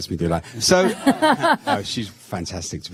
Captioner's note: laughter